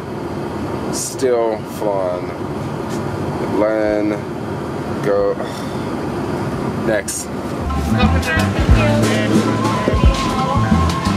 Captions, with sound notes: Still flying. Land, go (sighs) next. (smooth hip hop music)